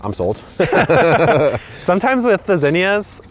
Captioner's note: laughs